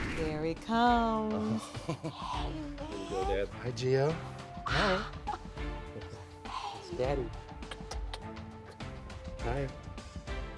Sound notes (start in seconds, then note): 1.6 chuckles; 5.2 chuckles; 7.4 kisses